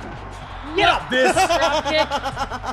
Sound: laugh

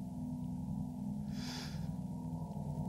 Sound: inhale

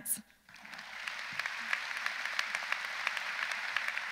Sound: audience applauds

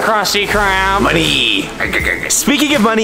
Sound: snickers

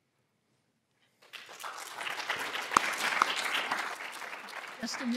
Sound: applause

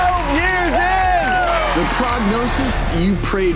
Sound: applause

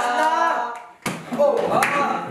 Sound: clap

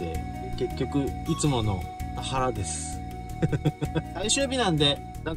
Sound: laughs

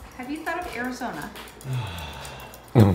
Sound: exhale

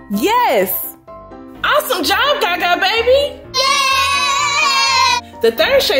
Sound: boys cheer

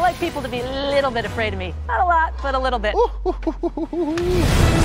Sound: laughing

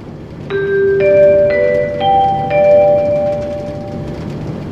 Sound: chime

